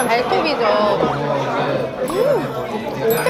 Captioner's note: nom nom